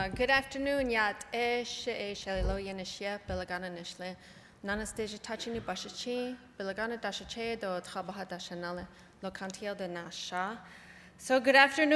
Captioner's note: non-english speech